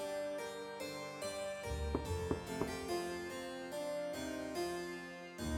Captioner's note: knock Knock